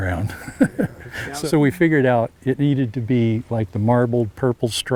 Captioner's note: laughs